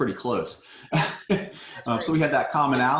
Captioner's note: laughs